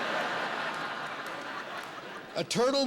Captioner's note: laughter